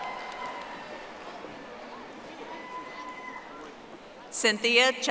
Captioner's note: audience applauding